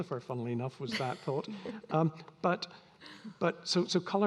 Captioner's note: all laughing